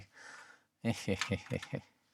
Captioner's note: chuckles